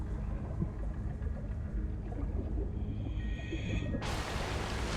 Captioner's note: water bubbling